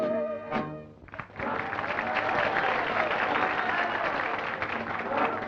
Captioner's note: applause and cheering